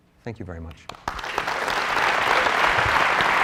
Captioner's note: applause